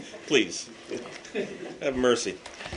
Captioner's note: laughter